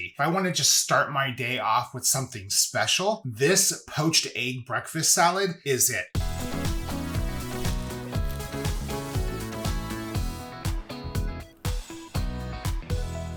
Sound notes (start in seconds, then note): 6.1 upbeat music; 8.6 water boiling; 10.6 upbeat music